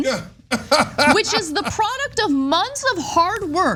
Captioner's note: laugh